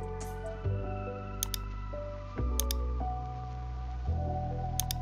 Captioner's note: mouse clicking